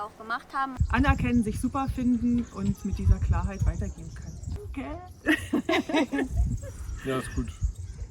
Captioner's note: laughs